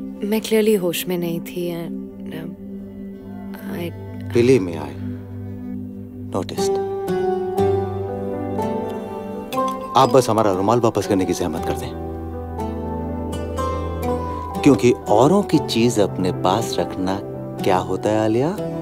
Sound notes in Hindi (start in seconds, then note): none